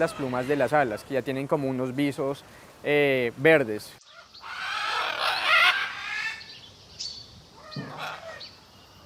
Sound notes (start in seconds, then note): 4.0 guacamayas parlando